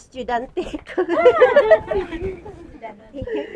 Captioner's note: laughs